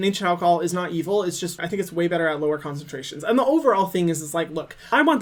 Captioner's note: none